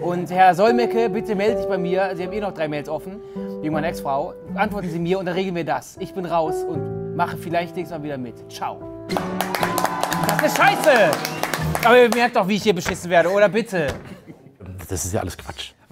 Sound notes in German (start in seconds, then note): 9.1 Jubel, Applaus